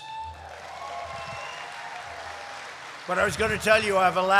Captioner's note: applause